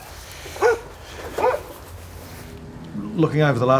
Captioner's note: dog barking